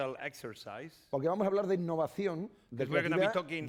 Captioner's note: speaking spanish